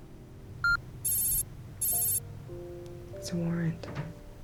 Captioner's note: beeping